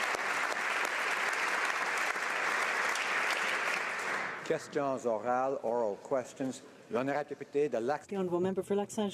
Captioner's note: applause